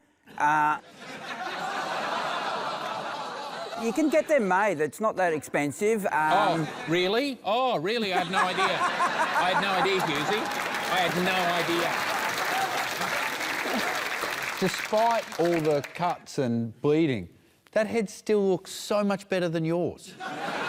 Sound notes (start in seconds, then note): 0.8 laughter; 12.5 cheering, applause